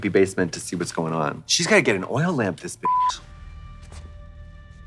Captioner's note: beep; dramatic music